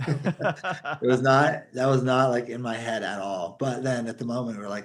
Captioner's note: laughing